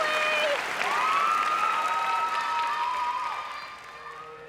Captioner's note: cheering and applause